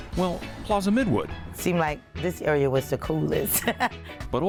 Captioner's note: laughs